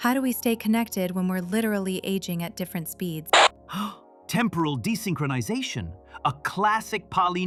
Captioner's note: gasping